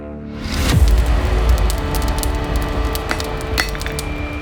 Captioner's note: fire crackles; dramatic music; metal clanks